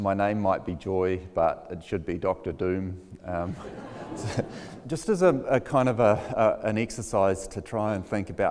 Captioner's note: laughs